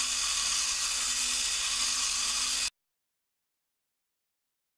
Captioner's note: mechanical whirr of robot